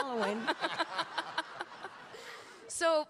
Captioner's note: everyone laughing